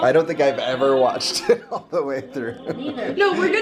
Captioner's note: chuckles